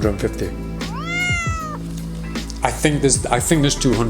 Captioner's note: crying